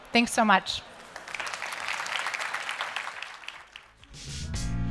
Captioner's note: applause